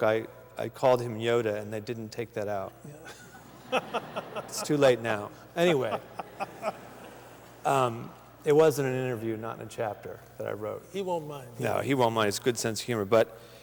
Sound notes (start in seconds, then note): 3.0 laughter